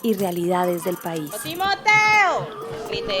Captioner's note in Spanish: Murmullos y gritos. Ambiente sonoro